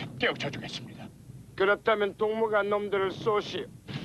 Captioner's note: Korean